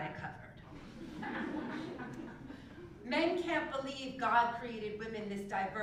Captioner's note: laugh